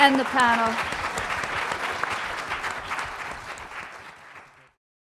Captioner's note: applause